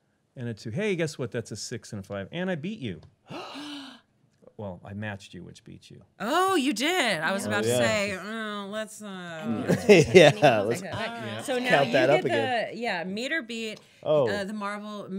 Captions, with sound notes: - And a two, hey guess what, that's a six and a five and I beat you. (gasping) - Well, I matched you which beats you. - Oh you did, I was about to say, oh, that's not-- - Yeah, let's count that up again. - So now, the marble moves to Lincoln.